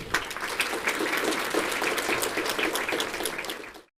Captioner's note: applause